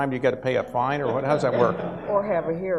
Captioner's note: audience laughs